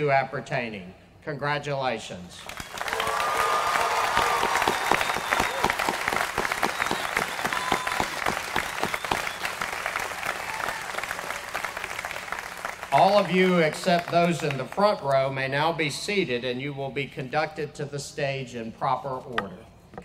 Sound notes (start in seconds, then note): 1.6 applause